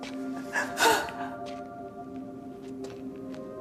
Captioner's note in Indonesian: tertawa